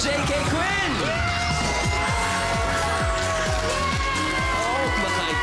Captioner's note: cheering